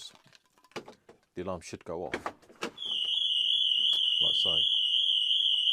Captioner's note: alarm triggers